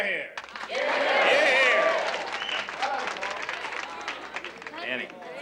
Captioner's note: audience applauding